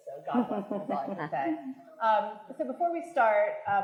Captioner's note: attendee laughing